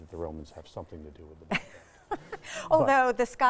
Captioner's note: chuckling